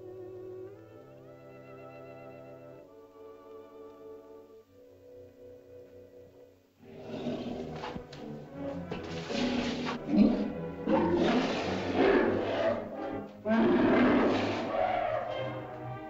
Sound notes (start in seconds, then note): 0.0 soft music; 6.7 suspenseful music; 6.7 mastodon grunts and growls; 13.4 mastodon bellows; 13.4 suspenseful music